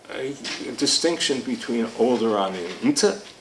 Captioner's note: speaking foreign language